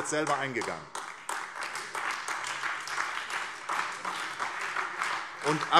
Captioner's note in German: Beifall SPD und vereinzelt AfD